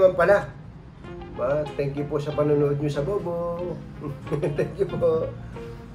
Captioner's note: laugh